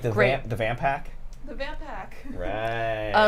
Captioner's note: laughs